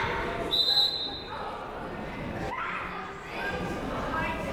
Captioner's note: whistle blows